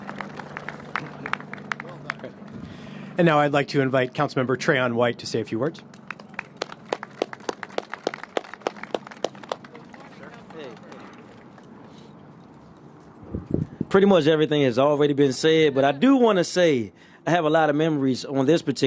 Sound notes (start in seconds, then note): 9.9 applause